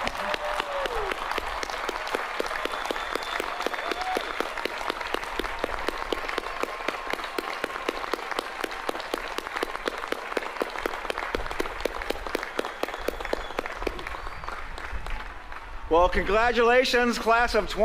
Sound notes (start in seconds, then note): 0.2 applause; 6.2 cheers